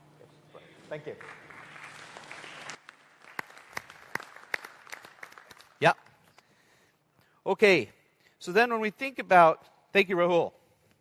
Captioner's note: applause